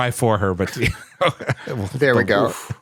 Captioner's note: laughter